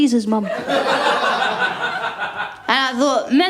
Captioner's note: laughter